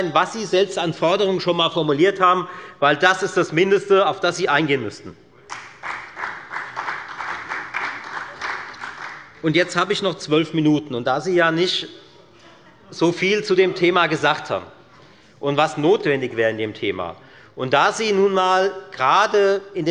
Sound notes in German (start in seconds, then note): 5.4 Beifall bei der FDP und bei Abgeordneten der SPD